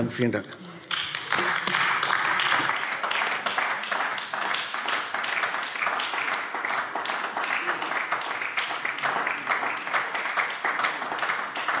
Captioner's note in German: Beifall AfD